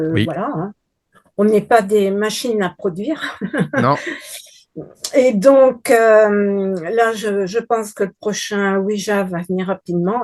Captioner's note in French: rires